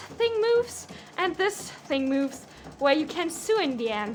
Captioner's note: the mechanic of the machine keeps rattling; the mechanic of the machine rattles; the mechanic of the machine still rattles